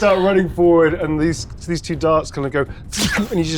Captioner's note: mimics arrow zipping